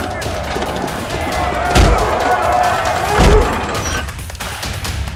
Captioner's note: inmates clamoring